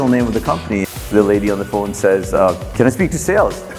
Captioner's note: static crackles